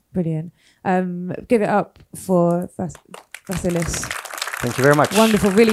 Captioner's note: audience applauds